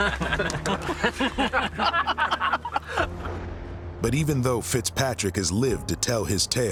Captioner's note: all laughing